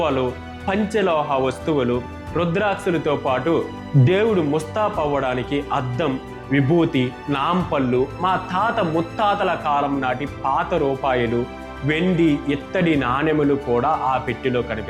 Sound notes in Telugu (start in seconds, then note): none